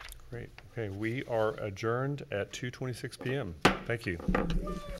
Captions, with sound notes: Great, okay, we are adjourned at 2:26 p.m. (gavel pounds) Thank you.